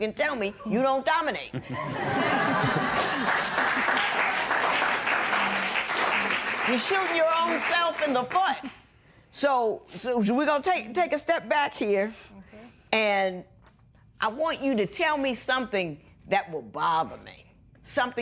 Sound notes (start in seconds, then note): 1.5 laughter; 2.6 cheers and applause